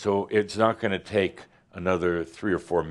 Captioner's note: none